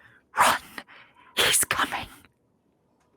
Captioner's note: creepy voice